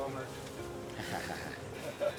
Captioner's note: laughter